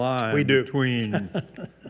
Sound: laughs

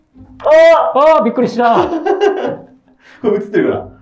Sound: laughing

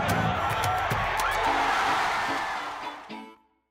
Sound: crowd cheers

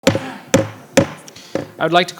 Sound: banging the table

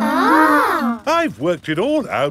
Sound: children gasp in awe

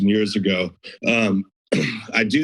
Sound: clears throat

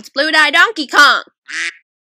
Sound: quack

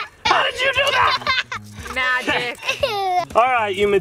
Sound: laughs

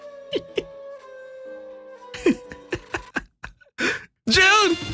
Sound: chuckling; chuckling

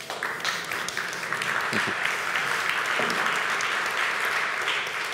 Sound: applause

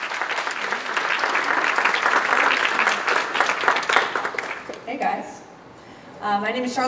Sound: applause

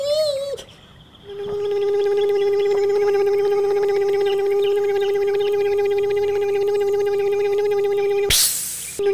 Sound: electric motor hum; hiss

